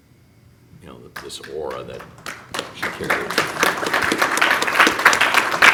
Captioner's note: clapping